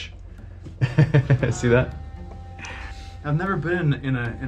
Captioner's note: laughs